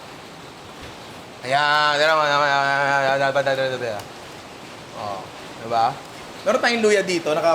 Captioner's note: speaks gibberish